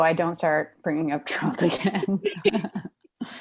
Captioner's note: laughs